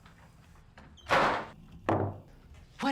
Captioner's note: door slams; bucket bangs on table